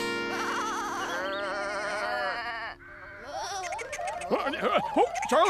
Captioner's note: sheep Bleating